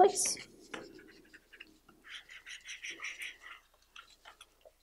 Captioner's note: rubbing